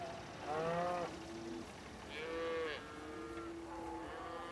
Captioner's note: cows lowing